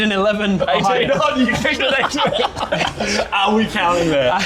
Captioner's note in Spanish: Risas